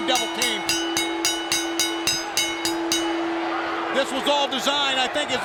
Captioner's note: bell ringing